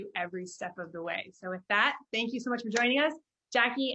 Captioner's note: claps